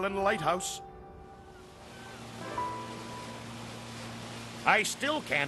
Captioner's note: gulls calling, engine humming